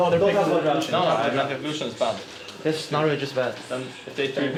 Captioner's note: teammates chattering